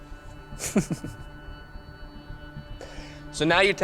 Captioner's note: chuckles